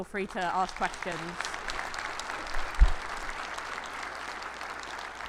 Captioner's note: attendees applauding